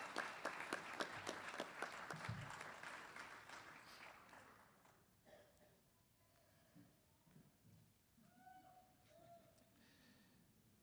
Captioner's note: applause